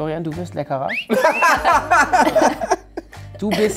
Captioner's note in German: Aufreizender Pfiff